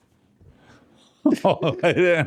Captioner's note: laughing